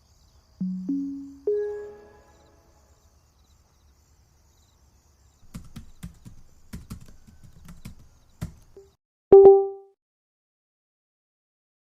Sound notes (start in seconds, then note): 0.6 windows power on sound; 5.4 typing sound; 9.3 hardware error sound